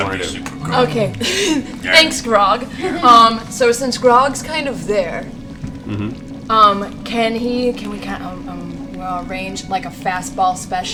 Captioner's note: laughs